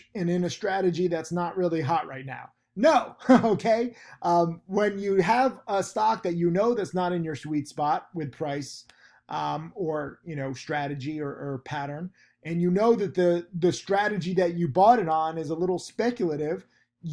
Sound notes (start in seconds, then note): 3.1 laughs